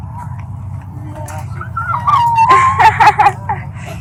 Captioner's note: vocalizes